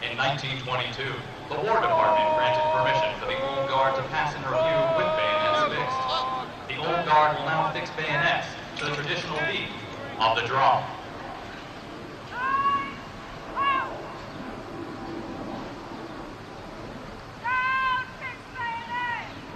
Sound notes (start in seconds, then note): 12.7 military commands off mic